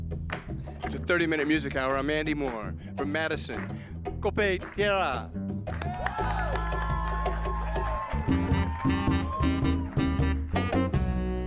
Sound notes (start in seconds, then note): 5.6 saludos y aplausos; 5.7 cheers and applause